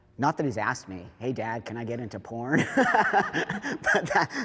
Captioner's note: laughs